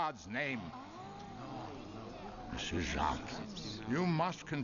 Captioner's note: audience murmurs